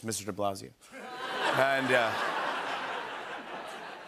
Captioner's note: laughter